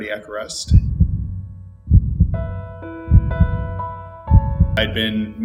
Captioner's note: gentle inspirational music; heart beating